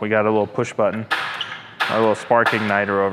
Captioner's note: igniter clacks